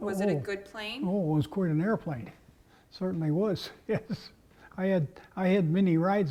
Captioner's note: laugh